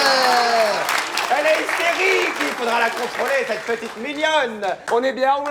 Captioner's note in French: aplaudissement